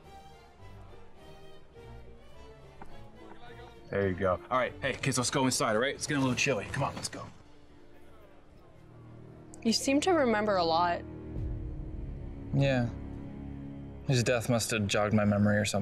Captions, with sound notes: (party guests chattering) There ya go. All right, hey kids, let's go inside, all right? It's gettin' a little chilly. Come on, let's go. (soft ominous music) - You seem to remember a lot. - Yeah, his death must have jogged my memory or something.